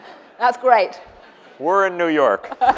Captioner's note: laughter